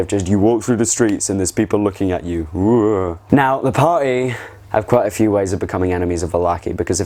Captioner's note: spooky noises